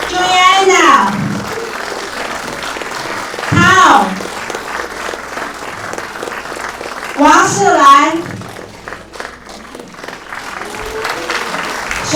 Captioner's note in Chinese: 掌声